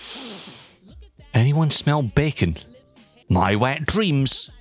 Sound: sniff

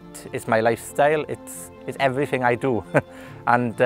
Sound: chuckling

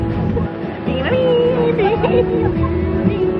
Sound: humming

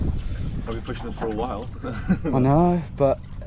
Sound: laughs

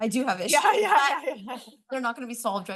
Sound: laughs

